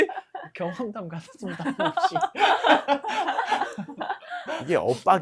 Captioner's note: laughter